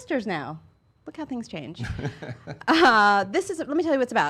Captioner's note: laughing